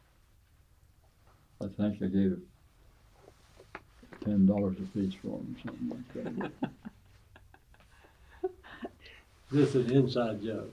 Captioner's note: laughs